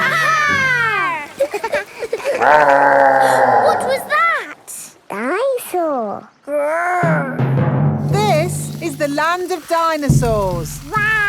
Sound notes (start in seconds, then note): 0.0 laughing; 2.3 growling; 3.8 gasps